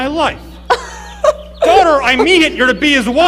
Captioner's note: Dorine laughing